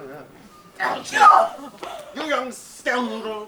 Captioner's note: Algernon whimpers